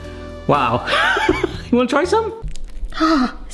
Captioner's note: laughs